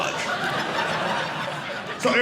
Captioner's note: audience laughing